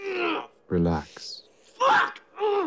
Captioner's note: grunts